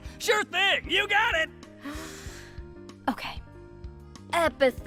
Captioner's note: deep inhale